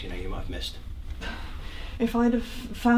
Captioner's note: scoffs